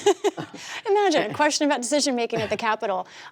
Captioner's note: laughter